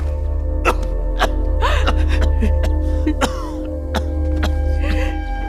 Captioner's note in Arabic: سعال